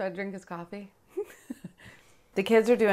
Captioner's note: laughing